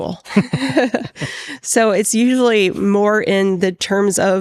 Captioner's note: laughing